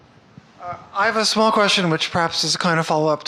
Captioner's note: voiceover